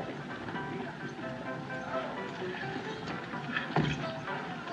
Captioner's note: honky-tonk Piano; people Chattering